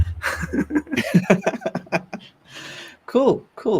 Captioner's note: laughter